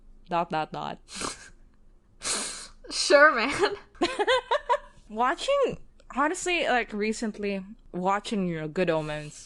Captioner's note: laughs